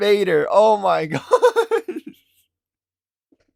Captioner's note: laughIng